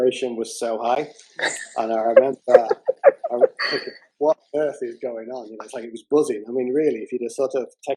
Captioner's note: laughter